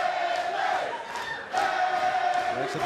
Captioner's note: fans chanting